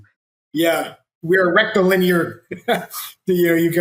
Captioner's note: laughs